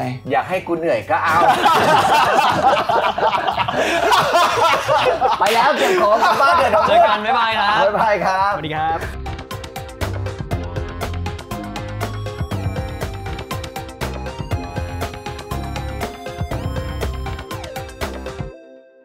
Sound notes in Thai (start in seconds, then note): 1.2 หัวเราะ